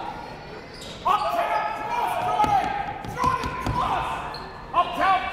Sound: coaches barking commands

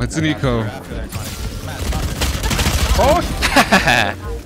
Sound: guns firing; laughing

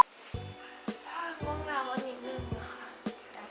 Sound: yawning

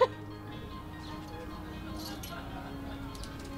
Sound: laughs

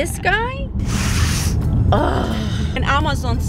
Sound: sniffs; groans

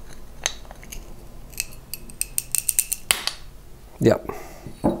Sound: crackling and snapping

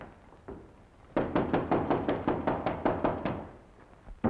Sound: fist pounding

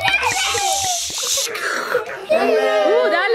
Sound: milk pouring; children exclaiming

